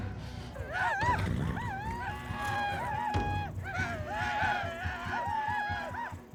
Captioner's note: paiutes yelling